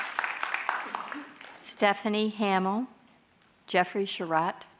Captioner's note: applause